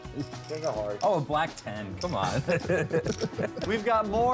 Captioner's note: laughter